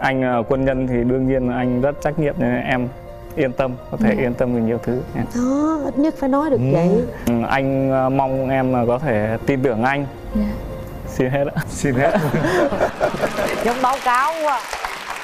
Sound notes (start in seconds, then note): 11.9 laugh